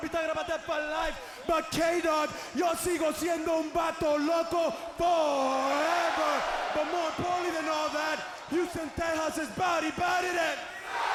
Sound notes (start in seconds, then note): 2.9 speaking in Spanish; 10.7 audience chanting